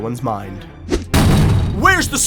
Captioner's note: slam